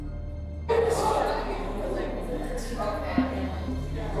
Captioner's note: inmates chattering